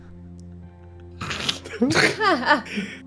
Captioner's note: laughing